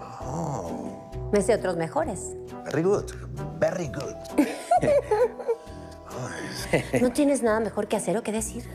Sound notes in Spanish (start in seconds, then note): 4.3 Risas